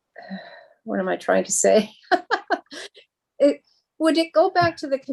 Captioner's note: chuckles